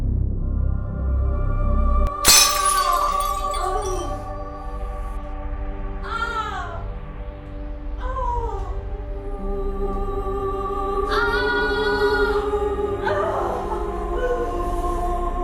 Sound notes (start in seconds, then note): 2.2 glass breaks, woman moaning in pain; 6.5 woman moaning in pain continuously